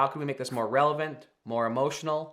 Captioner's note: screen whooshing